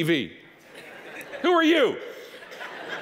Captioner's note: audience laughing